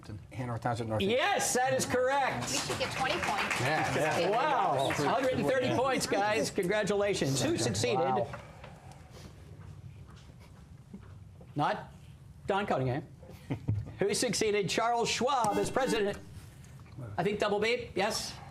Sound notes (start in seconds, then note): 15.5 buzzer; 18.3 whispering